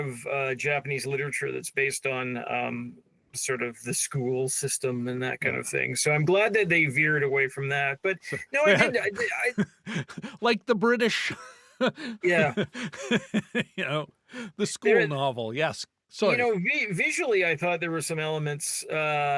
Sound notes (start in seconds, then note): 8.2 laughing